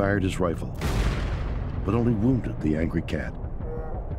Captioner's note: gunshot